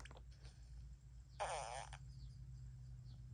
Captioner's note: doo doo fart